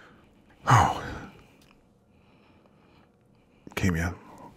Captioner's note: exhales sharply